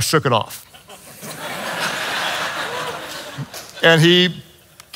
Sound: congregation laughs

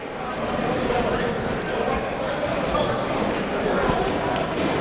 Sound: crowd talking

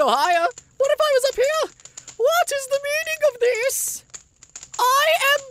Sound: matching LINK's falsetto

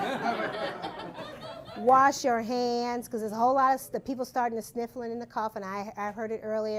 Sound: laughter

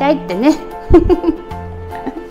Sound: laughs

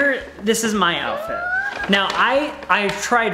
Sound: squeals

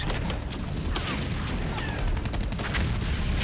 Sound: gunshots

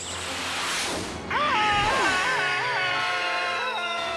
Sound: pink panther screaming

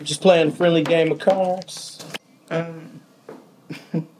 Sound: giggles

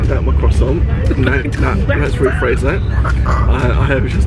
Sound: laughs

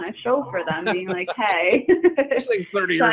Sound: both laughing

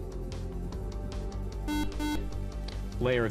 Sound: buzzer

